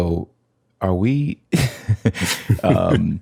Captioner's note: laughter